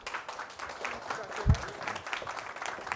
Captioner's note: audience applauding